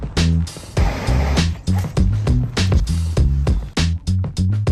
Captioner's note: upbeat music; train roaring